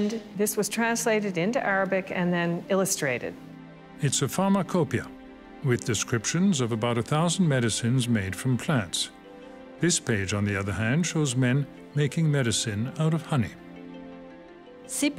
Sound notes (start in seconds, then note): 11.0 speaks French